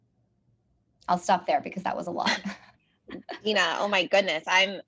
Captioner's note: laugh